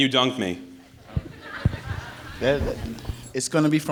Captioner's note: audience laughs